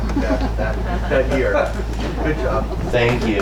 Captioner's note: audience laughs